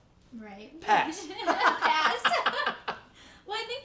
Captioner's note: laughing